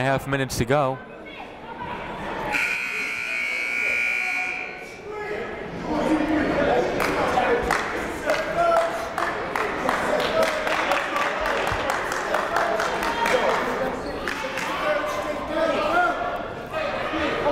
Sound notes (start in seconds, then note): 2.5 buzzer ringing; 7.6 clapping; 11.1 shouting